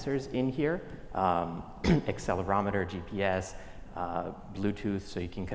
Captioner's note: cough